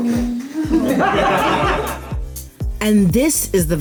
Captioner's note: laughter